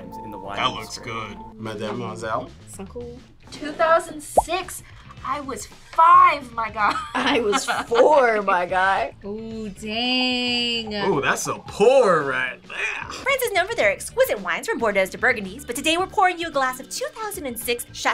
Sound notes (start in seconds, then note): 2.7 speaks in French; 6.6 laughs